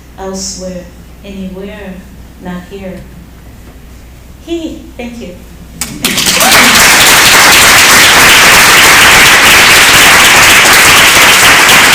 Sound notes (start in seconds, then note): 7.7 applause